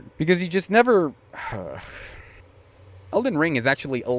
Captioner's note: huuhgh